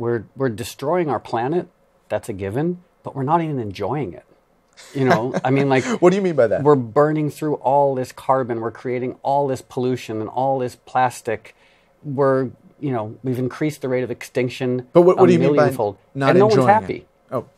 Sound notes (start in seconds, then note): 4.8 laughs